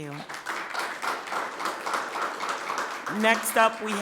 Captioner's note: people clapping